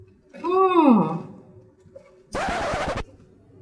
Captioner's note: silence